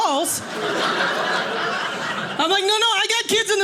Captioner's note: audience laughing